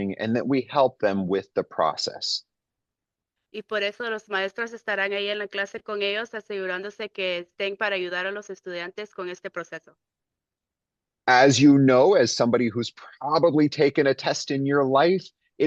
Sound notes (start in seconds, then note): 3.6 speaking in Spanish